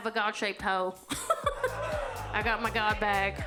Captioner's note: audience laughs